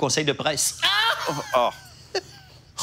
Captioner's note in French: rires